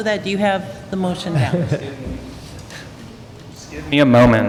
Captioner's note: laughter